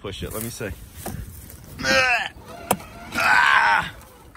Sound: motor roars

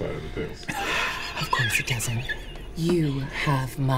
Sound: laughter

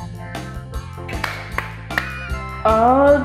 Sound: hand claps

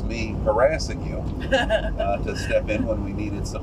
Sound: laughter

